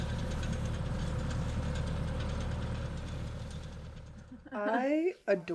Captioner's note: tractor sounds fade out